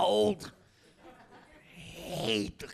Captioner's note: audience laughing